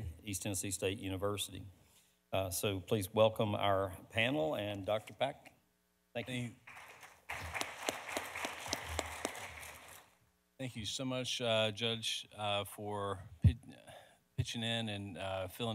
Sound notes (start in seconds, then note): 6.6 audience applauding